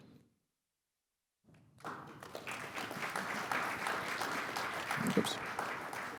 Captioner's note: applause